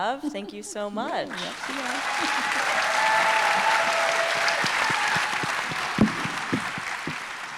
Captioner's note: audience cheering and applauding